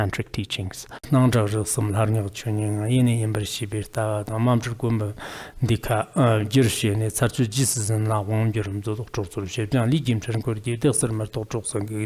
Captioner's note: giving oral transmission in Tibetan